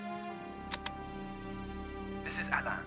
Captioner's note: click